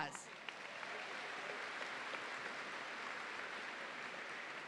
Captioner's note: audience applauding